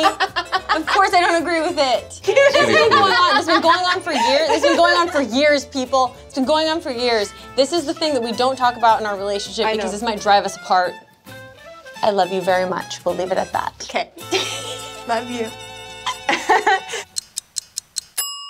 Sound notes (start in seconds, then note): 0.0 laughs; 14.3 laughs